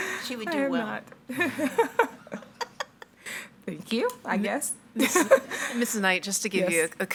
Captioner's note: participants laughing